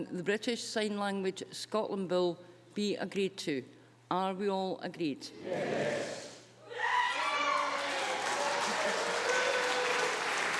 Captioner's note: cheers